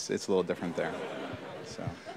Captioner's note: laughter